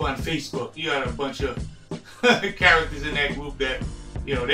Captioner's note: laughs